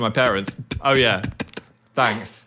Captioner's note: Dan spitting